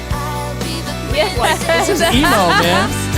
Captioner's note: laughing